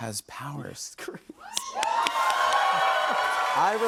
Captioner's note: cheers and applause